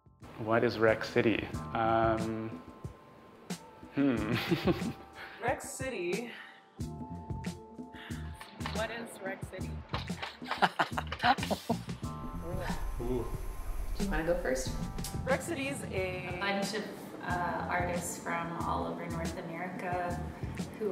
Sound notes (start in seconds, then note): 4.2 soft laughter; 10.4 laughter